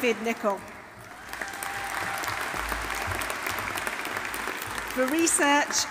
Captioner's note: audience applauding; audience cheering